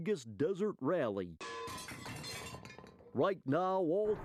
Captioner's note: metallic clanging